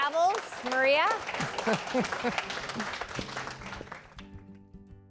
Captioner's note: applause